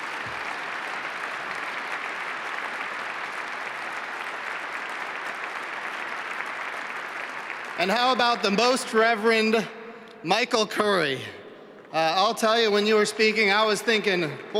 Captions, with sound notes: APPLAUSE FOR ELLEN SEW SPAN AND THE AIR AND SPACE MUSEUM. [APPLAUSE] AND HOW ABOUT THE REVEREND MICHAEL CURRY. WHEN YOU WERE SPEAKING I WAS THINKING BOY I GOT TO COME AFTER